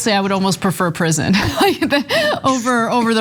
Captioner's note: laugh